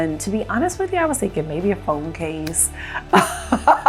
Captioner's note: laughs